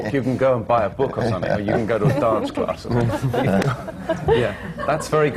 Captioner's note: laughter